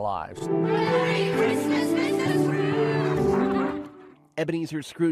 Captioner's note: laughing